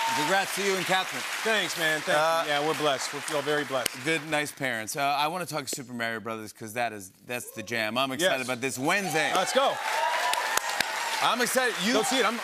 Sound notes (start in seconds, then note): 8.8 cheers and applause